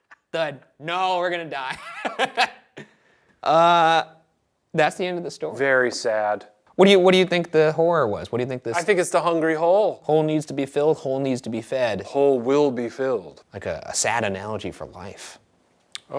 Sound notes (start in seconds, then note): 1.6 Ryan laughs